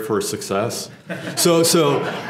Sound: laugh

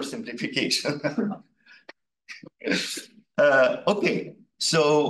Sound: laughing

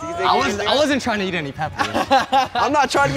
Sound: laughs

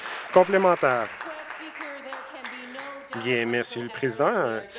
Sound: some Applause

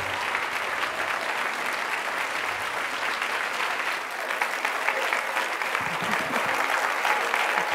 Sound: applause

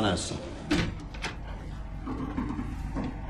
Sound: door opening

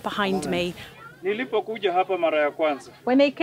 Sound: speaks in Swahili

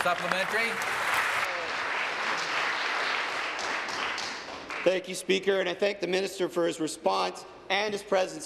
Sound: applause

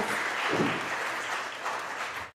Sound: audience applauding

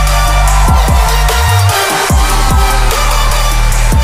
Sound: crowd cheering; upbeat hip hop music

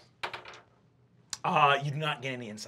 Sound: die clacks

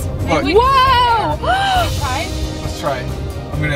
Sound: gasps

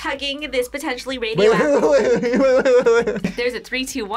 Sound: laughs

